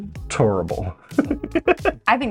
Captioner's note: laughter